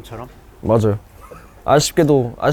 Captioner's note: confident